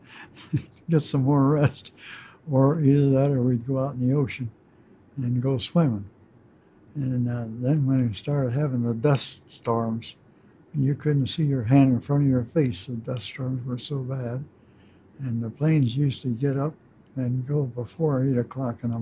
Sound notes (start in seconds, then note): 0.0 chuckles